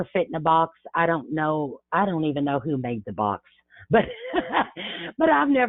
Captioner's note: laughs